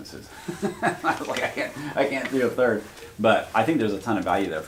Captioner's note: laughs